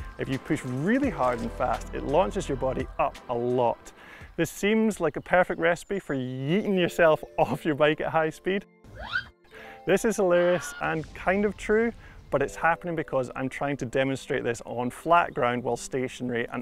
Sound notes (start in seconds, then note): 8.7 zipping